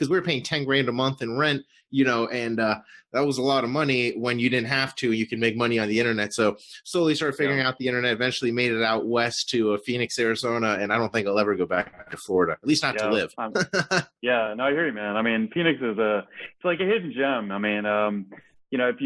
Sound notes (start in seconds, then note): 13.4 laughs